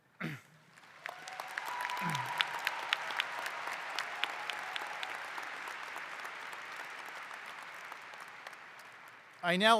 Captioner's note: applause